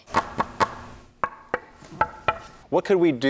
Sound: hollow knocking

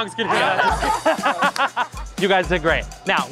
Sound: upbeat music; all laugh

